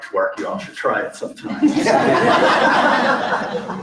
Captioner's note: laughter